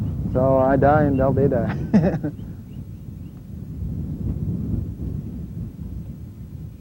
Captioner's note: laughs